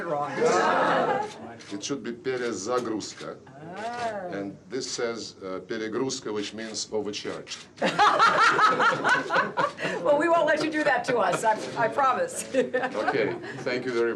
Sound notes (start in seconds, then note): 0.4 audience laughing; 7.8 both laughing